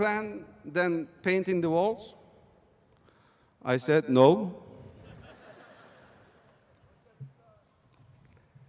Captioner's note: laughter